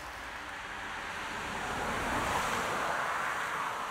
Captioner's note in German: Ein Auto fährt vorbei